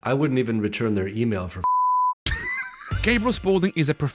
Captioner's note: laughs